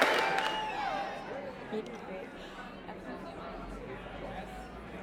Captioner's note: guests talking